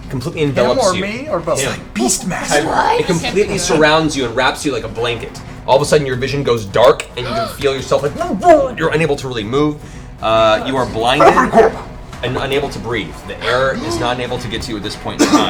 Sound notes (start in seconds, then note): 7.2 muffled yelling